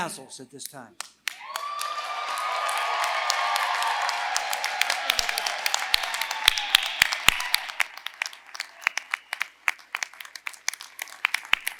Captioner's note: applause